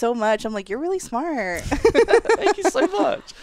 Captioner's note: laughs